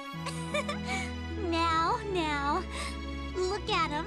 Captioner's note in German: kicher